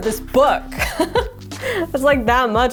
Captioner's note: laughing